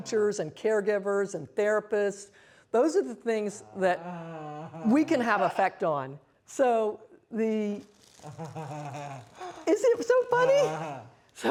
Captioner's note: laughing